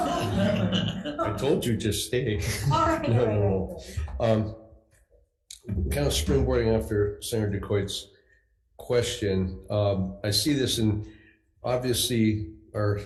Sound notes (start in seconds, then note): 0.0 board members chuckling; 0.0 attendees chuckling; 4.9 speaks faintly